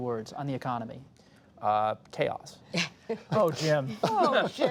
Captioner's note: laughter